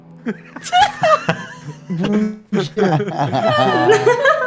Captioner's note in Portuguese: Todos riem